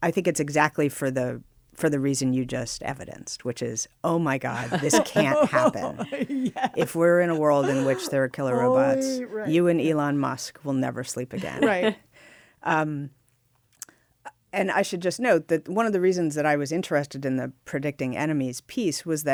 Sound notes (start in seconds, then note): 4.5 laughs